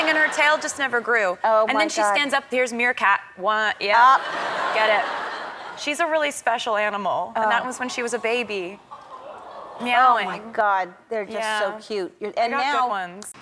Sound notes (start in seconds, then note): 4.0 crowd members laughing